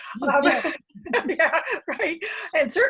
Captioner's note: laughter